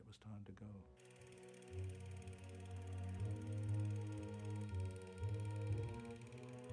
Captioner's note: slow music; projector whirring